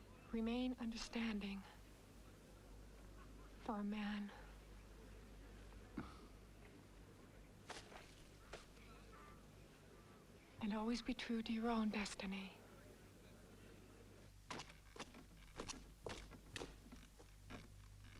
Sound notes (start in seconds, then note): 6.1 Pateray chuckles